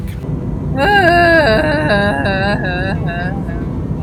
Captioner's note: sighing